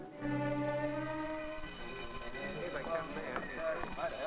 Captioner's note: bell ringing